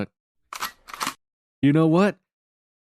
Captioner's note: cocks gun